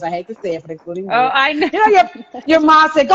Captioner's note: chuckling